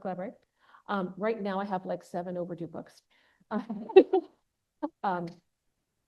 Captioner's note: laughs